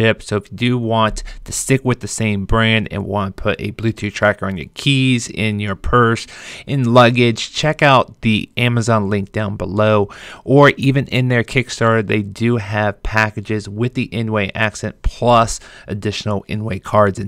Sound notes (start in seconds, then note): none